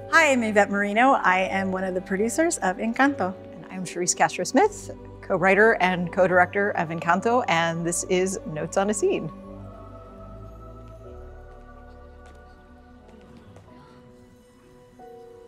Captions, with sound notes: - Hi, I'm Yvett Merino. I am one of the producers of Encanto. - And I'm Charise Castro Smith. Co-writer and co-director of Encanto, and this is Notes on a Scene. [gentle music] [footsteps] [person gasping]